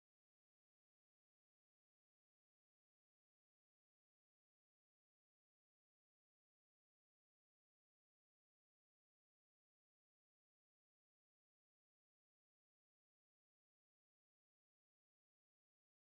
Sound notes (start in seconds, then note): none